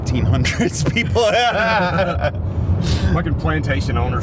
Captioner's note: Dave laughing